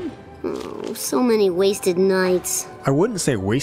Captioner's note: groan